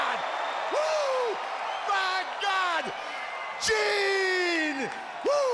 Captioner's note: crowd cheering